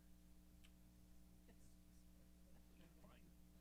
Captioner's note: chuckling